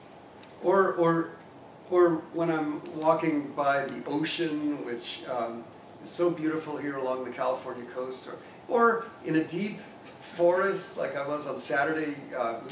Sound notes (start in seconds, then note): none